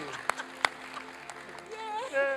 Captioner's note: applause and cheering